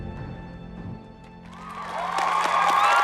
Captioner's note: applause